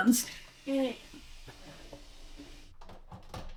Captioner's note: straining